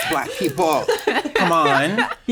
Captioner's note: chuckles